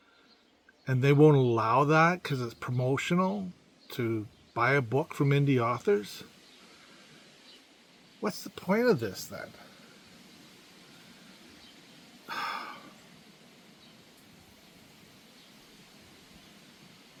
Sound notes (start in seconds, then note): 12.2 sigh